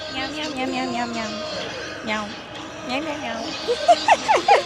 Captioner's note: cat noises; laughter